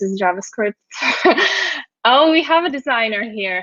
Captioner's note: laughs